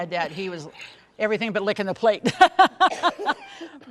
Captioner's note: laughs